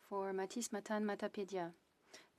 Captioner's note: speaking in French